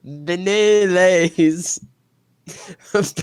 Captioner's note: laughs